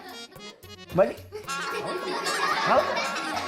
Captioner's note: kids laughing